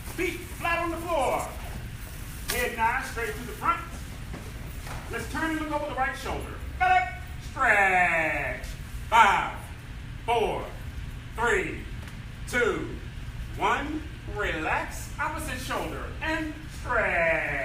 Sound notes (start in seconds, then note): none